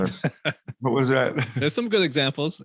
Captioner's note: laughs